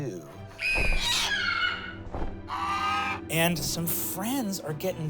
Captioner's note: eagles screeching